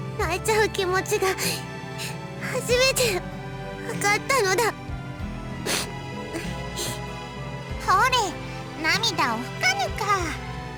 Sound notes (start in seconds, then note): 5.6 sniff